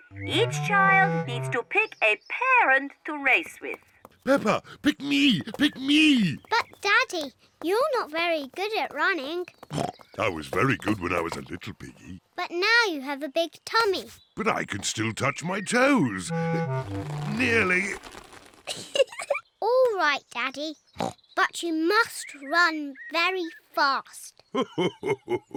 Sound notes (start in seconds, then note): 9.6 snorts; 16.2 straining; 18.6 giggles; 21.0 snorts; 24.4 chuckles